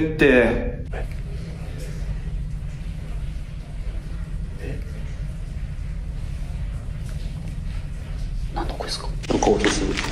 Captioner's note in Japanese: 霊安室から話し声